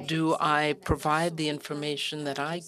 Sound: speaking French

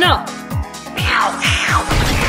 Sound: excited meows

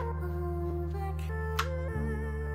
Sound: paper snaps

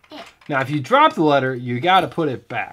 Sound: voiceover

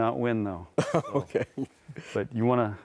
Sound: laughs

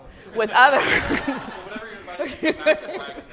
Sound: audience laughs; laughs

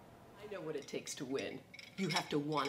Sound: medals clinking

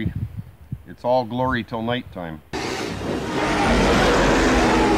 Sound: growls

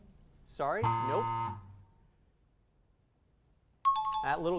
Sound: error buzzer; timer bell

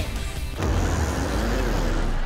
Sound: farting

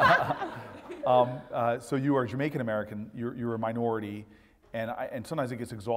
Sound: laugh

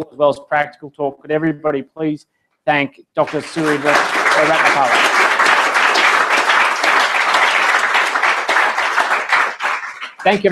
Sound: applause

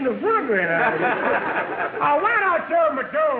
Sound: audience laughing

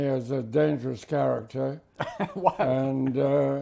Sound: laughs

